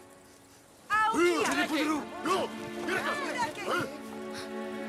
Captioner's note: foreign spoken audio